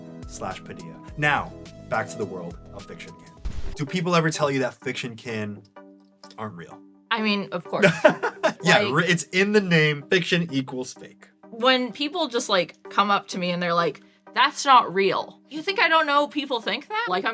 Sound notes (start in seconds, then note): 7.8 laughs